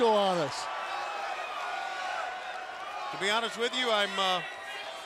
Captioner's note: crowd cheering